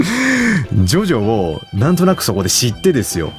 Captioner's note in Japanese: 息をのむ音